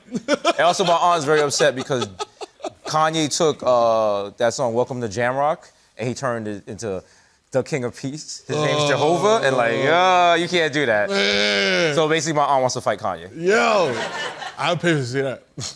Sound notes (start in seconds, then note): 9.2 groaning; 13.8 laughter